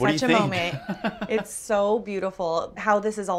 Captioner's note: laughs